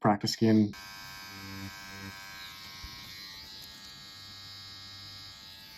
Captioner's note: machine whirring